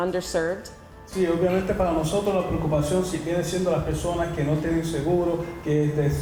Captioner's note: interpreter speaking in Spanish